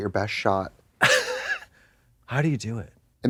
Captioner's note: Katya smirtles